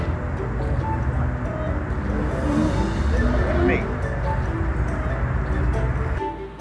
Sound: loud dinosaur roaring; dinosaur roar drowns out speaker

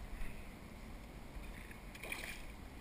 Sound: splash

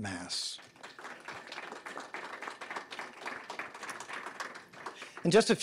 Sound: audience applauding

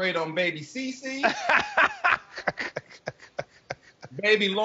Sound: laughing

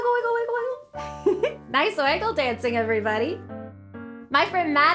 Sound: giggles

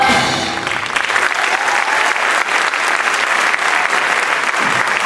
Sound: upbeat music; clapping

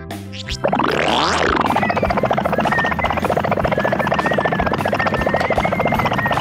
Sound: upbeat music; car gurgling

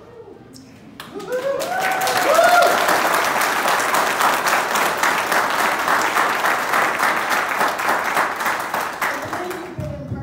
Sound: applause

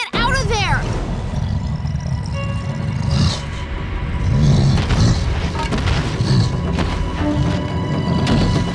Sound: grunting; grunting

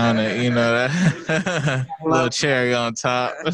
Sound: all laugh

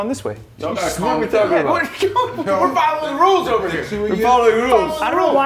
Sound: laugh

